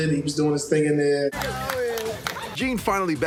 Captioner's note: neighbors applauding